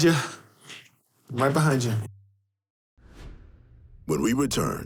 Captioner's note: air whooshing